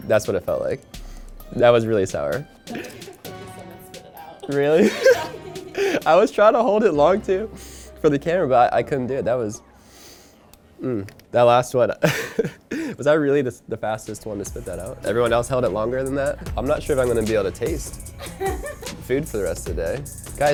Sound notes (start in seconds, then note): 3.9 laughing; 12.0 laughing; 18.2 offscreen woman laughing